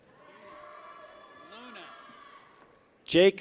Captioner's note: people cheer